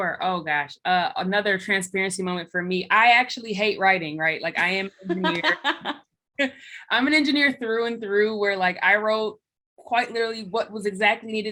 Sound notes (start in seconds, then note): 4.6 laughs